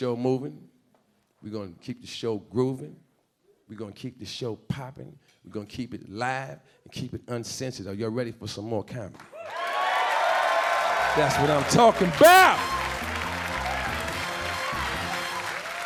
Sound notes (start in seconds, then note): 9.3 audience cheering and clapping begins; 12.1 upbeat jazz music plays